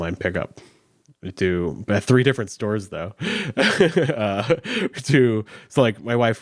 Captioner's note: chuckles